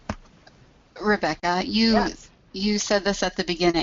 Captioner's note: voiceover